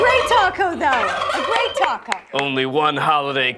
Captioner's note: turkey gobbling